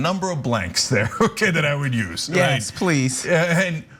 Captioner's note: laugh